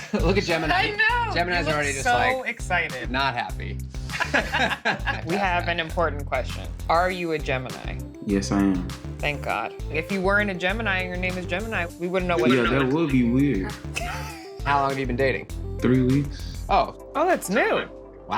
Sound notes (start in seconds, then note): 4.1 both laughing; 13.5 laughing